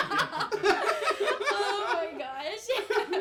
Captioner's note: all laughing